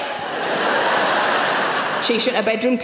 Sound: audience laughing

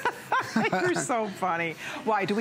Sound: laughter

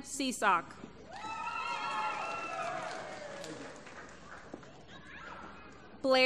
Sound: applause

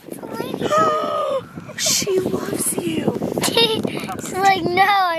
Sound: laughing

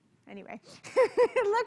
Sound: laugh

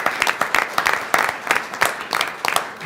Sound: applause

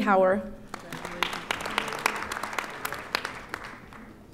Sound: audience applauding

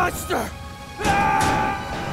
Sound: screaming

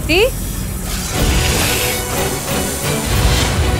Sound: dramatic music; hissing

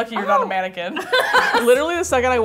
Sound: laughing

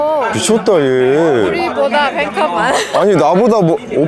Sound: laughing

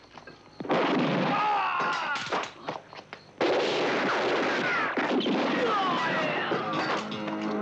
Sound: guns blasting; men grunting

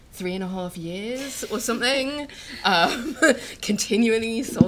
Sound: they chuckle

